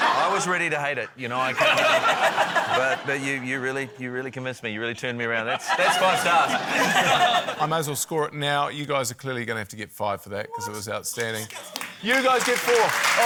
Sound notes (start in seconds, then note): 5.4 laughter